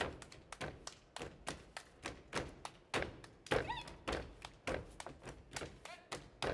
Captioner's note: hands clapping and feet stomping